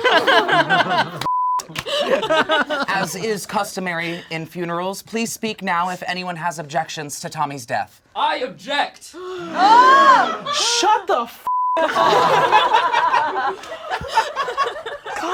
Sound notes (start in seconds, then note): 0.0 all laugh; 1.2 beep; 9.2 all gasp; 11.4 beep; 11.8 all laugh